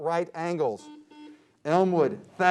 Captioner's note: beep